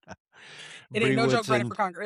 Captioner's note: laughs